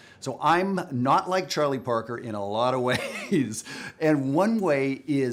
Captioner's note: laughs